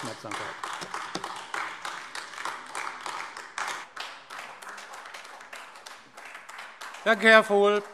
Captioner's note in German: Beifall AfD